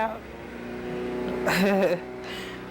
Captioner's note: loud landscaping noise